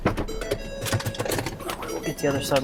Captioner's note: car beeping